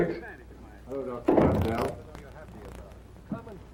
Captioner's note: background discussion continues